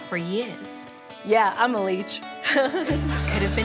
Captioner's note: laughs